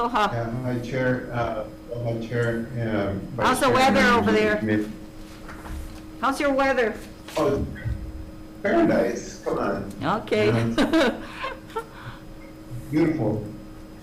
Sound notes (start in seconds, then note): 10.4 they laugh